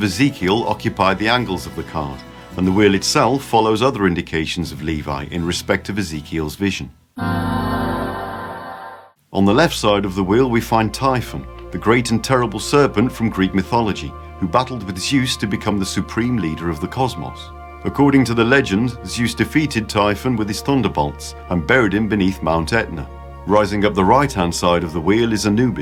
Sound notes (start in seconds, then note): 7.2 ahhh sound